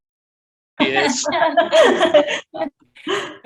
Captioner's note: laughing